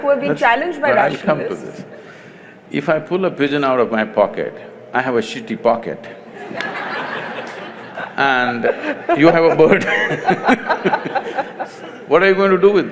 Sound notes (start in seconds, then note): 6.3 laughter; 9.8 both laugh